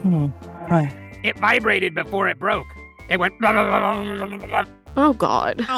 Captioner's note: imitates vibrating sound